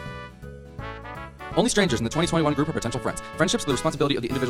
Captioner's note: talking very fast